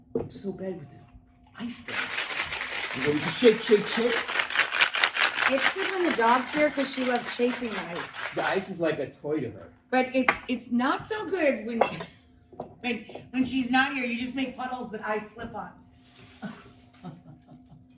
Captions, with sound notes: I'm so bad with this ice thing. (shakes cocktail) And then we shake, shake, shake. It's good when the dog's here, 'cause she loves chasing the ice. The ice is like a toy to her. But it's not so good when she's not here. You just make puddles that I slip on.